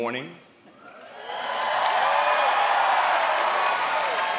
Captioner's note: applause